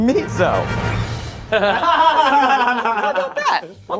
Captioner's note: all laughing